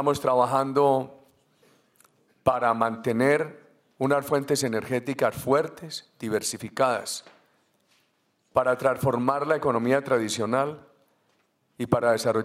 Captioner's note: Spanish